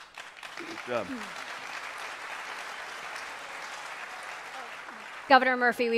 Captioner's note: applause